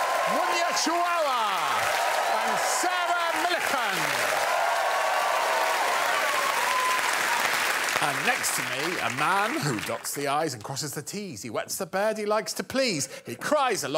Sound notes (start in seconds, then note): 4.6 crowd cheers and applauds